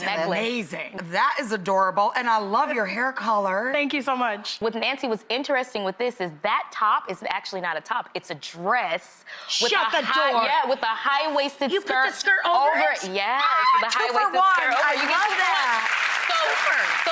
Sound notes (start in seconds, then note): 13.4 screams; 14.4 audience applauds